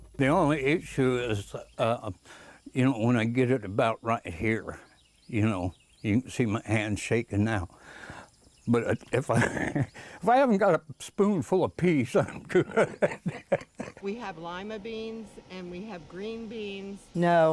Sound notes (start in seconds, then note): 12.1 laughing